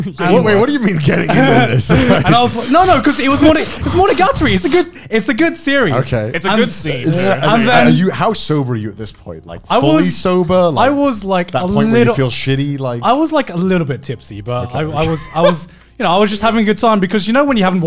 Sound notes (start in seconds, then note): 2.2 laughing